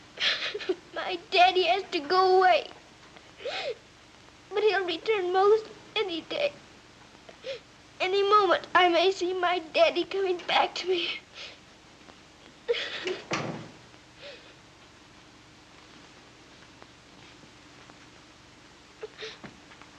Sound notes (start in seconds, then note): 0.1 crying; 12.6 sobs; 13.0 door closes